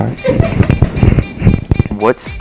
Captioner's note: person laugh